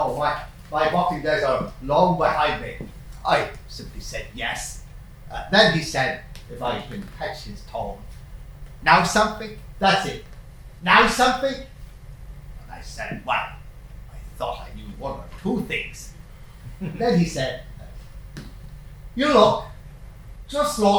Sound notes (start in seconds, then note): 8.1 cockney accent; 18.3 cockney accent